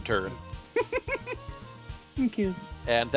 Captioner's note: chuckles